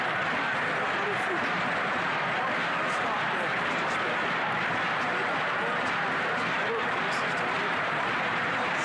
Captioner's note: chanting